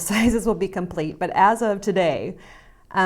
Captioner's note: laughs